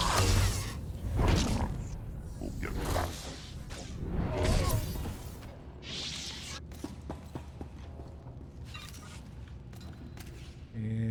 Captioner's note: gunshots